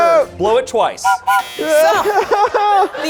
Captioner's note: whistle blows